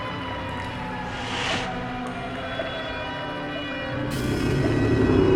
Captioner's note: air whooshing